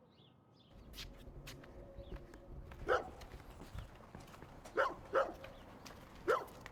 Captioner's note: birds chirp; dog barks